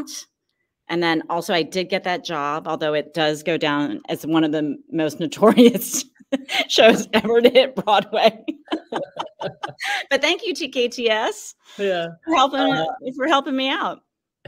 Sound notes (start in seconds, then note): 6.3 laughs